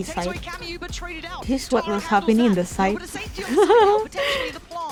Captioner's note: laughs